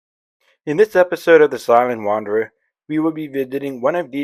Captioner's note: voiceover